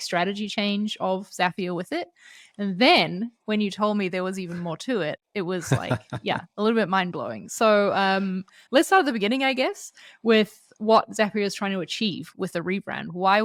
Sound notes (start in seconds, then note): 5.6 laughs